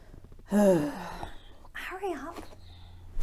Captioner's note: sighs